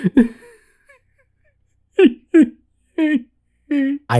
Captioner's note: crying